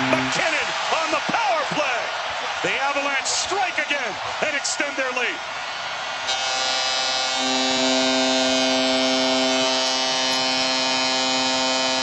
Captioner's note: goal horn